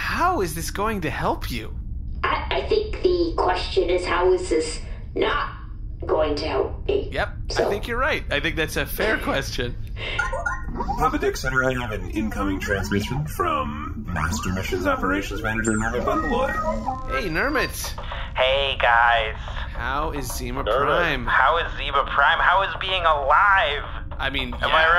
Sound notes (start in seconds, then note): 6.3 laughing; 10.1 communicator chimes